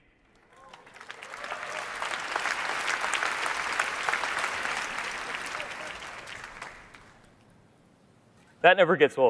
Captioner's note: applause